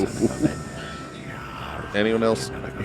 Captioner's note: evil whispering